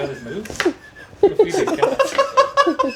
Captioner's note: laughing